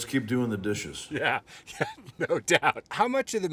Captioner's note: laughing